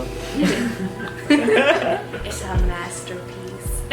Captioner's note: both chuckling